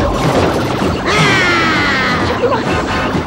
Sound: grunts

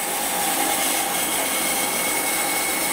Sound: whirring noises of the saw

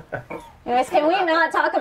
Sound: laughter

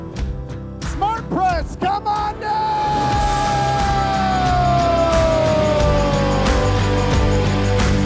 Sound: applause

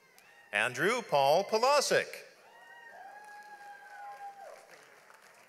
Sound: audience applauds

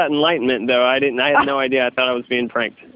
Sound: laughs

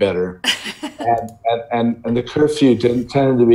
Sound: laughing

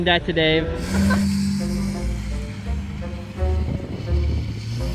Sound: engine revs

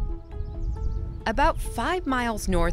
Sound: birds chirping; soft music

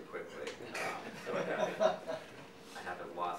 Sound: audience laughing

